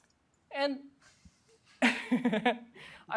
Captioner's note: chuckles